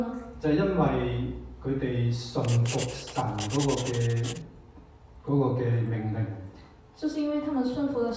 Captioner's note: Cantonese